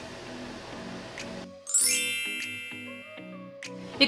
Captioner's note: sparkle noise